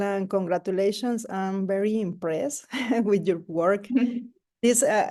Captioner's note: laughs